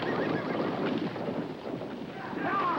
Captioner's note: horses Approaching